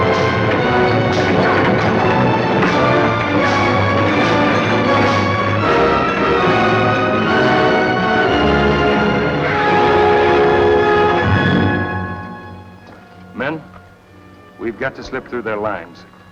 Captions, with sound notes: (horses whinnying) - Men, we’ve got to slip through their lines.